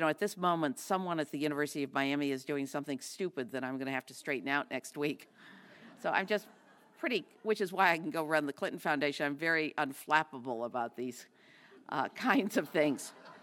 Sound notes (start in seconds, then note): 5.2 laugh; 13.2 laugh